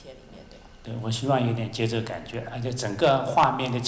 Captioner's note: Mandarin